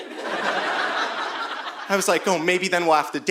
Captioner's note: audience laughing